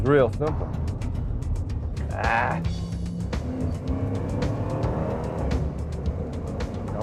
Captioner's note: car engine revving